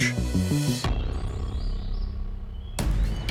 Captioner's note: birds singing; upbeat music